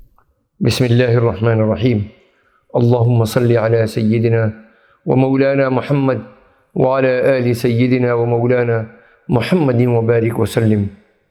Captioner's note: supplication in Arabic